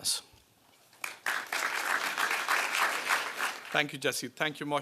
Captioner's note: applause